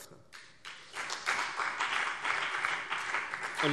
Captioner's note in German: Beifall CDU und BÜNDNIS 90/DIE GRÜNEN